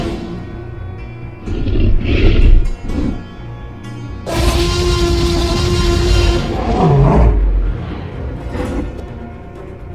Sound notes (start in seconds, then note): 4.3 loud Roar